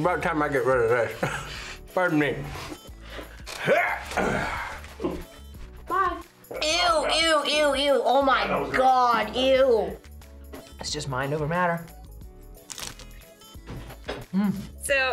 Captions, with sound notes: - It's about time I get rid of this. (laughs) Pardon me. (grunts) - Bye! Ew, ew, ew, oh my God, ew! - It's just mind over matter. Mmm.